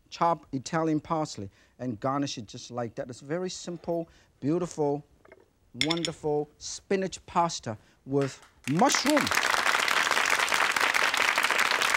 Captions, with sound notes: chop Italian parsley, and garnish it just like that. That's very simple, beautiful, wonderful (saucer clinks) spinach pasta with mushroom. (audience claps)